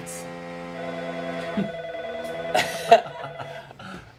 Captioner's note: phone ringing and engine revving